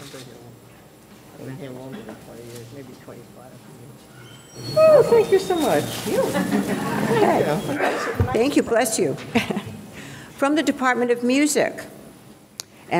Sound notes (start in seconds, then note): 6.1 audience laughing; 7.7 audience member sneezes